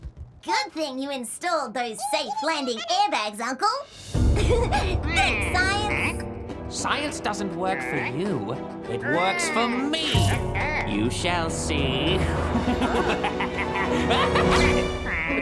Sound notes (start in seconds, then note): 4.3 giggles